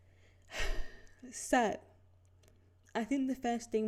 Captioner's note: deep exhale